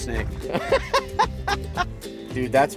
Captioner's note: laughing